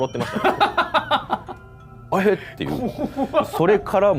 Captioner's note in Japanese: 笑い